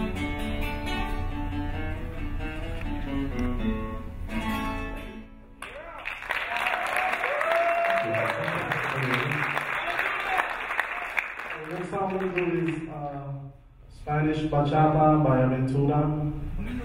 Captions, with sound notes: - Yeah! (cheering) - Thank you. - The next song we do is Spanish. (speaking in a foreign language)